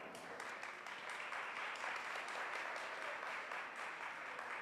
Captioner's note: audience applauds